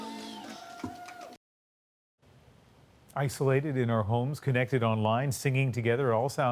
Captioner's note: applause